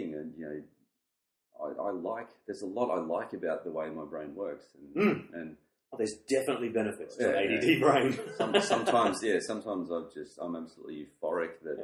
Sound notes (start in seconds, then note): 7.3 laughs